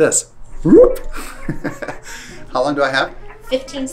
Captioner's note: laughs